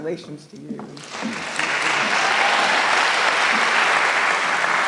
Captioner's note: applause